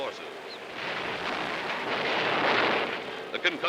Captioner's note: explosions